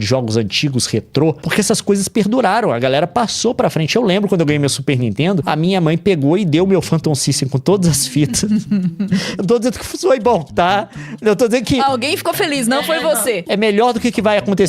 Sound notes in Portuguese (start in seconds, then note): 8.1 risadas